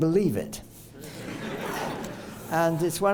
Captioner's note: laughter